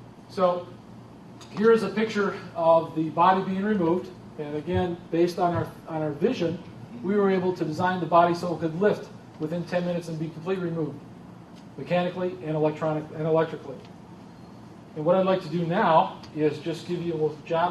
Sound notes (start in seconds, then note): none